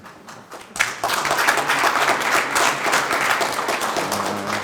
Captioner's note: group applauding